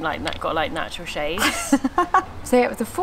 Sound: laughs

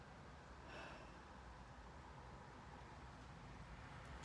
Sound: loud exhale

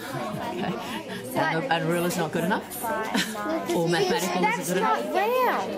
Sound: laughs

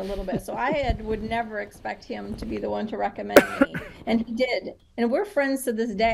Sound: chuckle

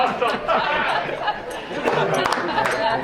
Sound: all laughing

